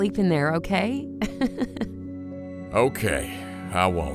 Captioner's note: laughs